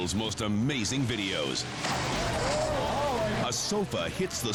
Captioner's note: spectators groaning